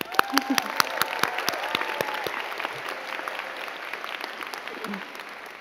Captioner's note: crowd cheering and clapping